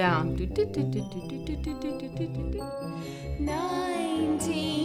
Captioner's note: imitates piano keys